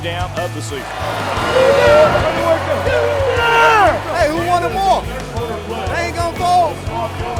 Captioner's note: cheering